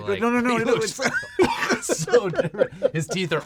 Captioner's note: laughter